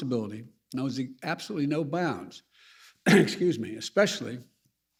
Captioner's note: coughs